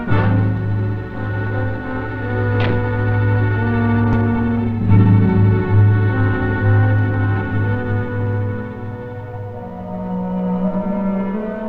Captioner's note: door slamming